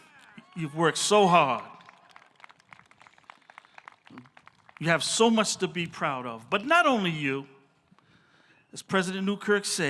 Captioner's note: applause